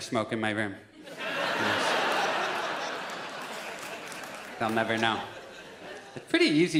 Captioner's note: audience laughs